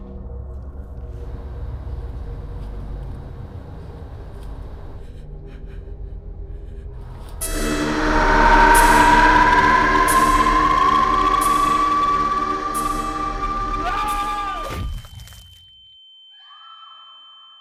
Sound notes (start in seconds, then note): 7.9 intense music; 14.6 shouting and being struck